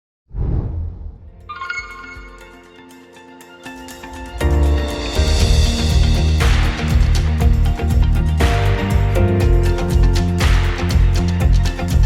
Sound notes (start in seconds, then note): 0.3 air whooshing; 1.4 upbeat music